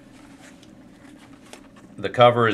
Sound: pause

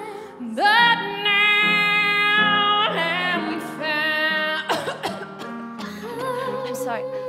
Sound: coughing

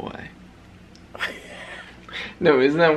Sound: laughter

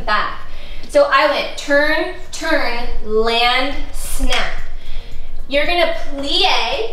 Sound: fingers snap

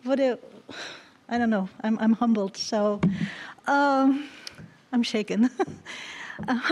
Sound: chuckles

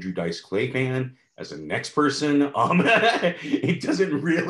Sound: laughs

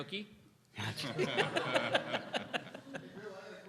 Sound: laughter

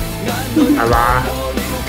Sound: laughs

